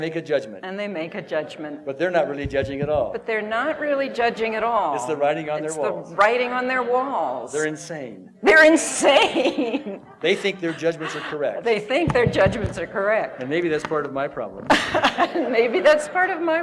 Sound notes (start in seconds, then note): 8.8 laughter; 14.6 laughter